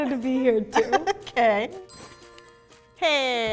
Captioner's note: laughs